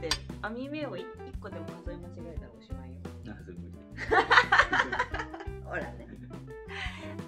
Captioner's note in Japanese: 笑い